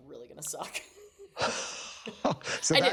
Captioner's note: laughter